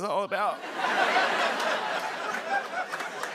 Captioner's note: laughter; applause